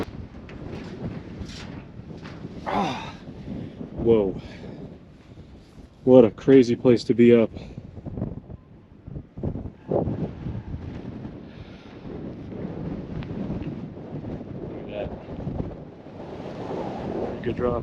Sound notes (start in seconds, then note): 2.6 groans; 8.6 wind fluttering; 16.1 wind howling